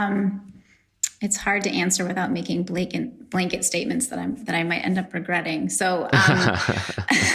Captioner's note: laughs